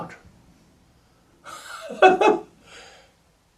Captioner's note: laughs